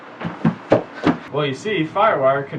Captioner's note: feet stomping